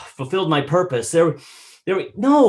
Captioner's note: inhales